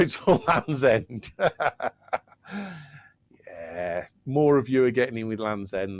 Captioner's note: laughs